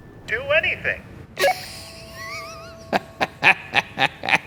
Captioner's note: laughs